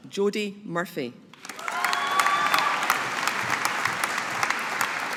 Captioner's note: audience applauding